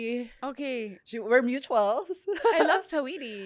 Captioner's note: laughs